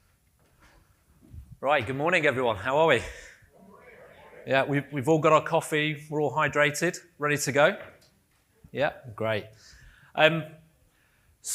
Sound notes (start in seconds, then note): 3.5 audience murmuring